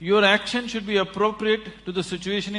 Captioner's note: none